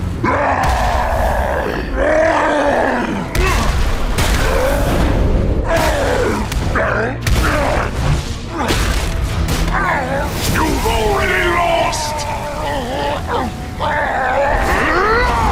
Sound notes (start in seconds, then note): 0.1 roars; 3.0 grunts; 4.0 boom; 11.0 groaning